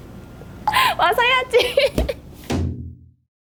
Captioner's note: laughing